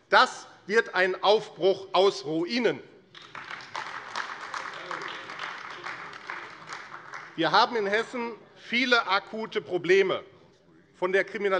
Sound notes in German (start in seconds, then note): 3.1 Beifall AfD